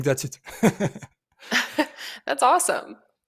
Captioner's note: laughs